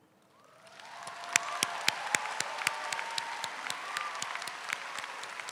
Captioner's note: audience applauding